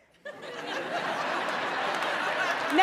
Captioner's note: laughter